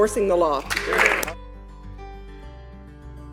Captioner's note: applause